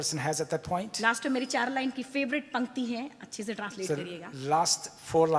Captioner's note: speaks foreign language